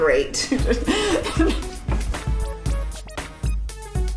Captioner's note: laughing